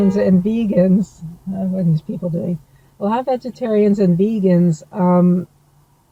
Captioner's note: car beeps